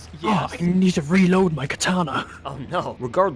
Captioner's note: deep voice